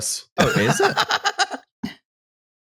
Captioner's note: cackles